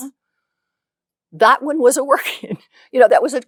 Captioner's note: laughs